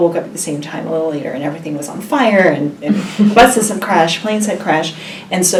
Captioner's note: laugh